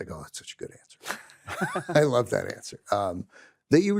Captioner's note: laughs